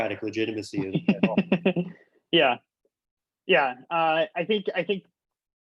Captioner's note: laughing